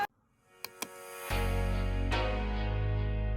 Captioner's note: click